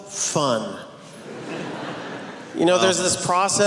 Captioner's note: laughing